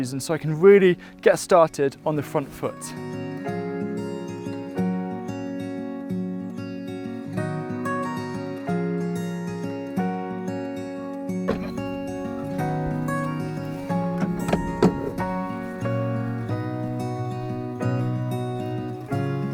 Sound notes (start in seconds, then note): 3.2 gentle music; 11.4 gardener opens and closes door